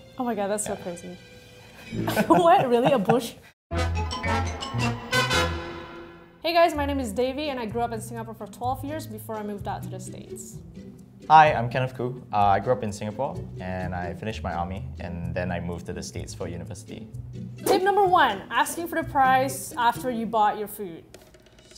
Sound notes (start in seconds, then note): 1.8 both laugh; 3.9 upbeat music